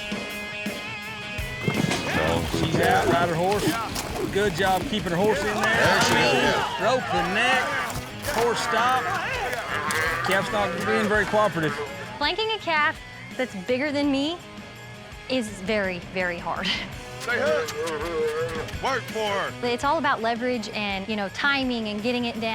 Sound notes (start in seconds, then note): 11.2 calf mooing; 18.3 calf belowing